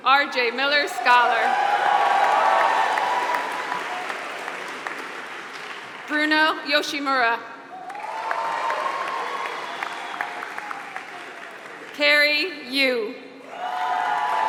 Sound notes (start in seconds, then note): 0.0 applause; 7.7 applause; 13.6 applause